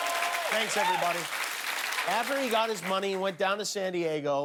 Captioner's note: cheers and applause